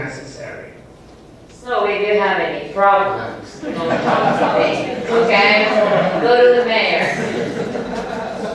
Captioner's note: laughs